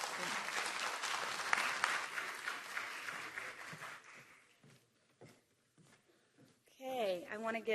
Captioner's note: applause